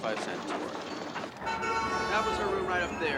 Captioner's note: honking